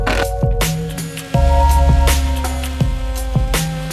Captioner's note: saw buzzing